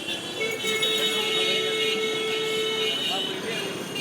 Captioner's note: horns continue